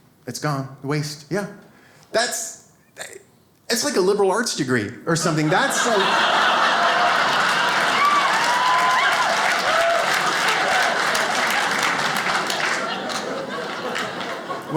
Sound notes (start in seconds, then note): 5.8 audience laughs; 7.9 audience applauding